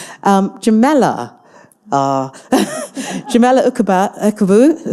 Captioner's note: chuckles